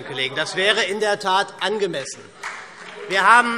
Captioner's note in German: Beifall SPD